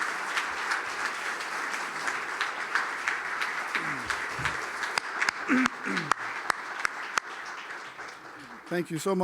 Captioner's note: applause